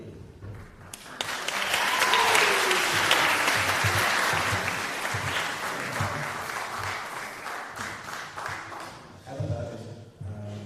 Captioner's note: applause